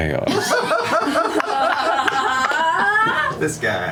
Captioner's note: laughter